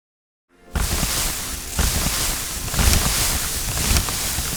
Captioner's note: confetti rustling